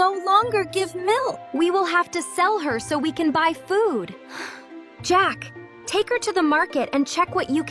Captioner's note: sighs